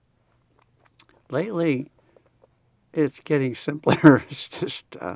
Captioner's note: laughs